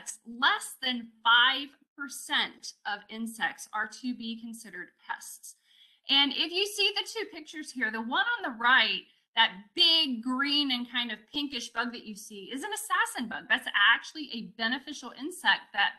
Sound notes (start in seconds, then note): none